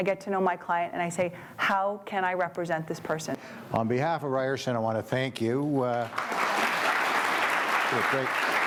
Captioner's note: applause